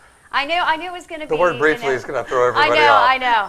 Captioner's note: laughing